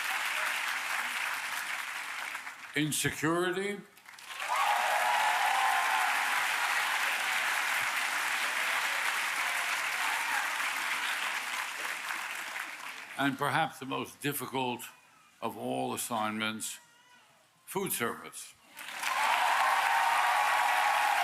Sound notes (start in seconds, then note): 0.0 applause